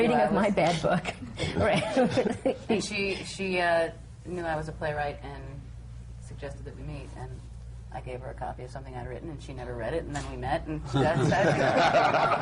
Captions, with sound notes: A reading of my bad book. (LAUGHS) And she knew I was a playwright and suggested that we meet. And I gave her a copy of something I’d written, and she never read it, and then we met (LAUGHTER)